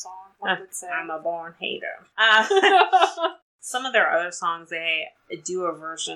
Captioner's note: laughs